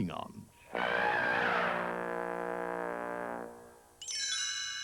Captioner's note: trumpeting